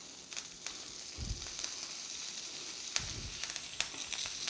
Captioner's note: fish sizzling